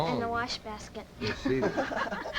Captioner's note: laughter